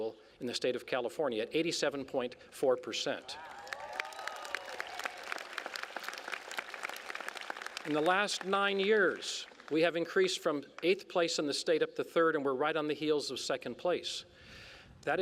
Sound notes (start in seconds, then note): 3.4 applause